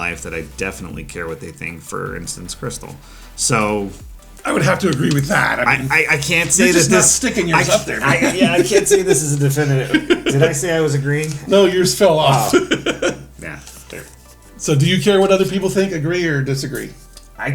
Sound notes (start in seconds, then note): 8.2 laughs; 12.3 laughs